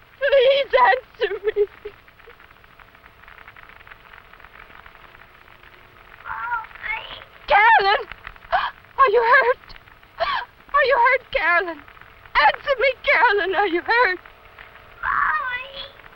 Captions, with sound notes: Please, answer me! [Sobbing] [Radio Crackling] Mommy! Carolyn! Are you hurt? Are you hurt, Carolyn? Answer me, Carolyn. Are you hurt? Mommy!